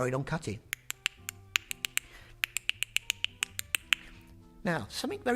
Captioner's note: clicking and clipping